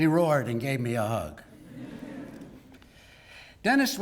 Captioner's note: laugh